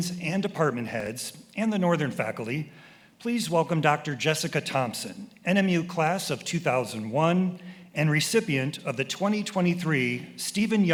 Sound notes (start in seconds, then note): none